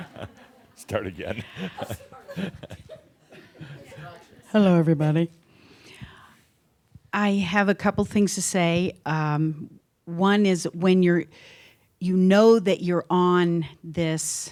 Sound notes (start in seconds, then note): 0.0 someone says, “She’s running away” and audience laughter; 3.5 chuckling